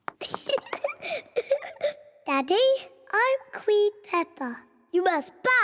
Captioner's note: giggles